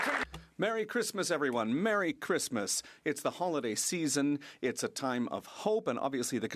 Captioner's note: some Applause